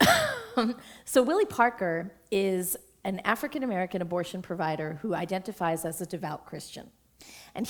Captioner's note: chuckle